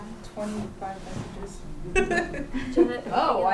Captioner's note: laughter